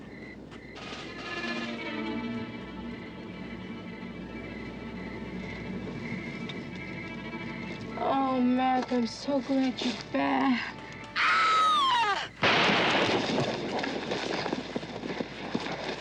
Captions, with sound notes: Oh, Mac, I'm so glad you're back. [Sally screams] [gun firing]